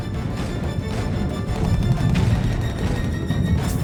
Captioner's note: gunfire